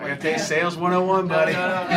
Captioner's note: laughter